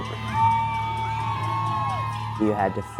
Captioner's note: howling